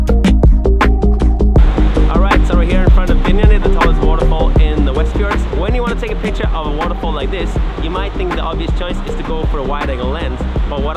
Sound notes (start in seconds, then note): 1.6 waterfalls crashing